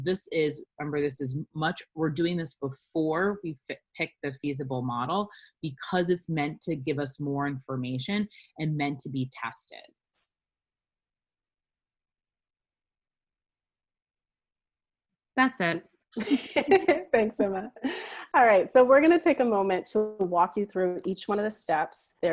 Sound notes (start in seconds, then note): 16.2 laughs